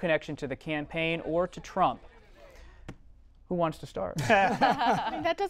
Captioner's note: laughter